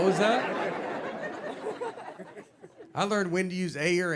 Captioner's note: audience laughing